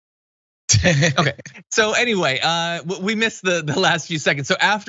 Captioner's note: laugh